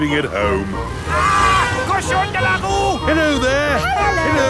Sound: yells

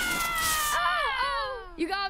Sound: spraying

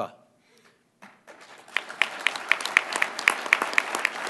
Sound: applause

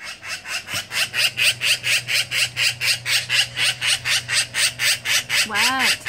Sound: repetitive, loud squawk of wild magpie

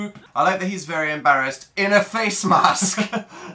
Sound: laughs

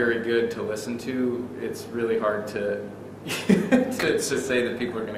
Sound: laughs

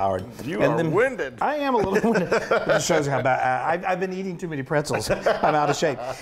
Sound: laugh

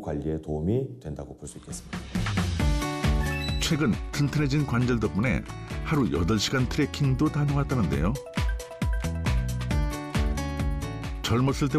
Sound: voiceover

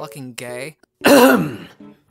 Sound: clears throat

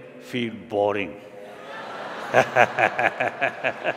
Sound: laughter

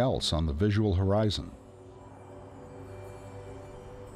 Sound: bells chiming

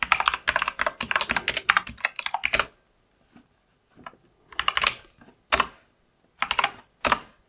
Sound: blank Audio

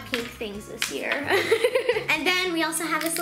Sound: laughs

